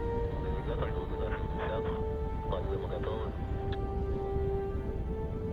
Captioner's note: man speaking in foreign language